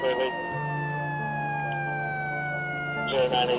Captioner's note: ambulance siren